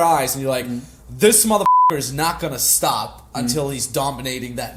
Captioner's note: beep